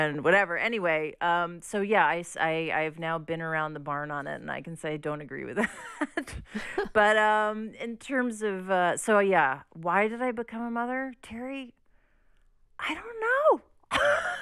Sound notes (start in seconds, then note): 5.6 laughter; 13.9 laughter